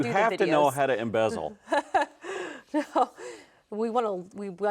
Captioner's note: laughing